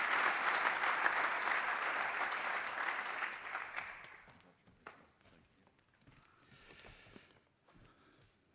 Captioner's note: applause